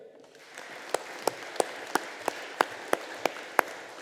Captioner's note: audience applauding